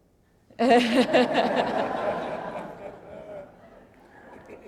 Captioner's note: laughter